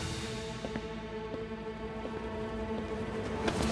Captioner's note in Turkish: Ayak sesi